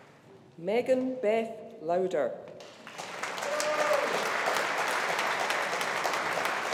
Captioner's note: audience applauding